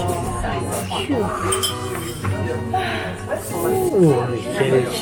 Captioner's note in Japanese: 疲れと寒さでため息で会話する夫婦